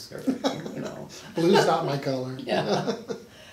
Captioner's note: laughing